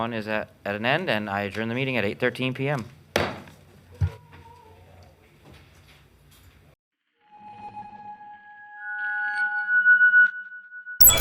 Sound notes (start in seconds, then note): 3.3 gavel striking; 7.2 suspenseful music